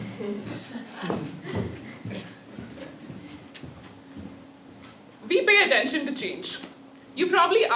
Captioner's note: laugh